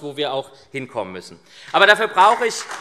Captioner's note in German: Beifall SPD